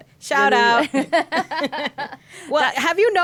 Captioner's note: laughing